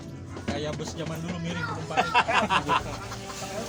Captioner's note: laughing